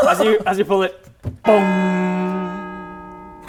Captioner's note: bonggggggg